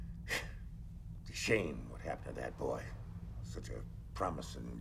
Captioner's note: exhales sharply